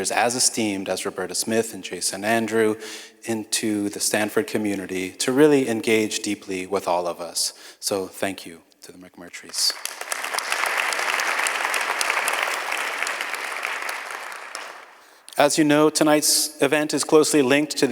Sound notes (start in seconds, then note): 9.5 audience applauds